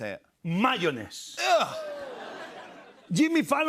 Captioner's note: laughter